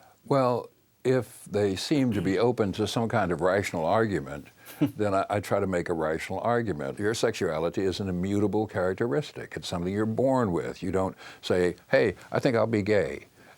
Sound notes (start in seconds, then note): 4.6 Capehart chuckles